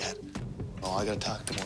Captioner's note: whihispspererining